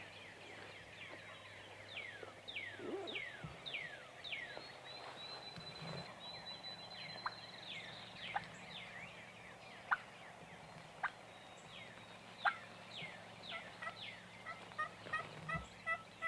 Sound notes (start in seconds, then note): 5.8 birds tweet; 8.7 turkey clucks